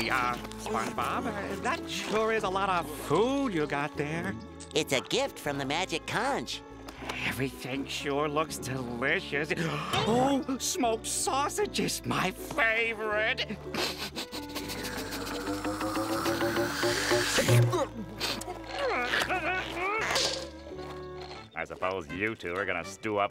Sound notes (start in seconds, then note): 9.3 gasps; 13.7 sniffing